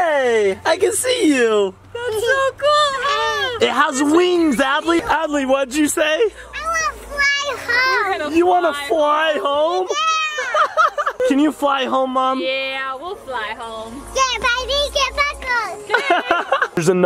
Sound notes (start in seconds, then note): 10.2 laughs